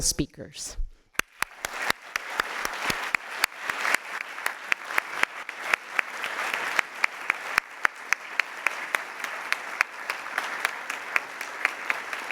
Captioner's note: applause